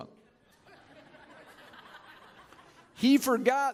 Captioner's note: chuckling